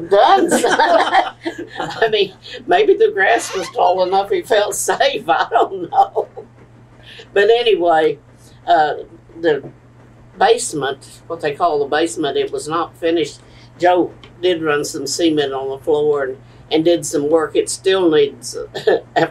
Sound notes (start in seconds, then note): 0.4 laughter; 5.3 laughs